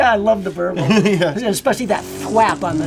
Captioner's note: laughs